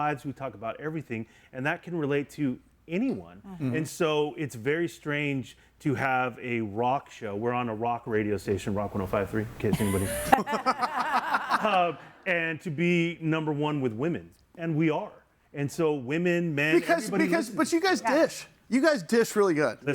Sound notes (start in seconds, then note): 9.7 laughs